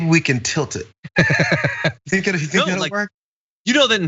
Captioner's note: laugh